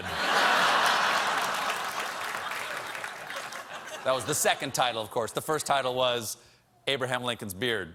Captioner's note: laughter